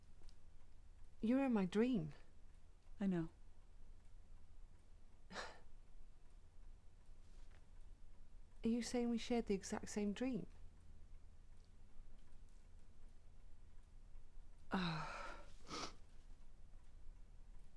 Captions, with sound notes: You were in my dream. - I know. - (sighs) Are you saying we shared the exact same dream? - Uh... (sniffs)